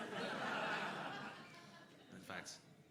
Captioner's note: crowd laughing